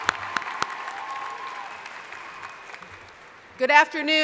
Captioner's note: crowd applauding